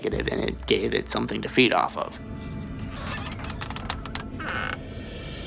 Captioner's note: door creaks